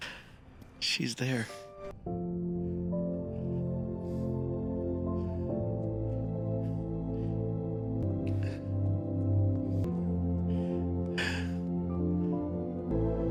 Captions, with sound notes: she's there. the. [emotional exhale]